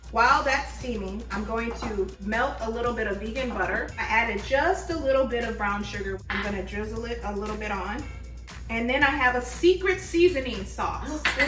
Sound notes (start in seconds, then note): none